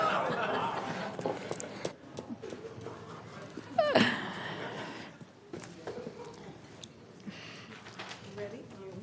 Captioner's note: laughter